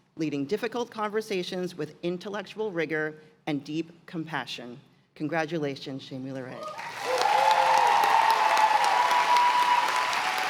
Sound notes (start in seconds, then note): 6.6 cheers and applause